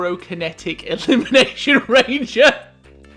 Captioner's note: laughing